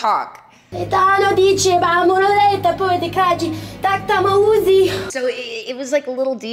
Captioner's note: Leeloo yelling in gibberish